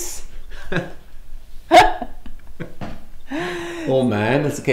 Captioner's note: chuckles